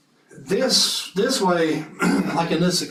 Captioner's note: cough